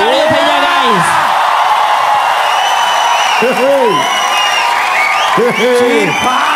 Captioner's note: crowd applauding